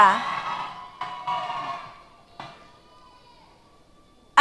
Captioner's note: cheers